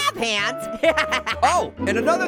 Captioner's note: chuckles